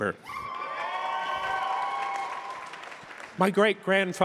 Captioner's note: crowd cheering